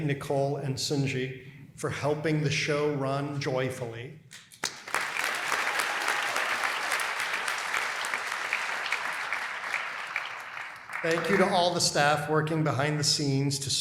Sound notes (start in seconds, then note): 4.3 applause